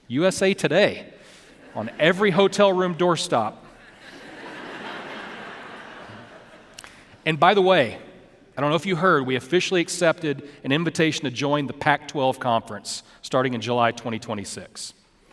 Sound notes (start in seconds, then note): 3.7 audience laughing